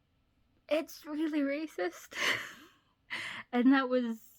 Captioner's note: laughs